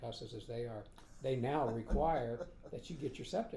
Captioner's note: laughing